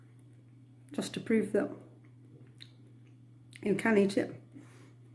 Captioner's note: chews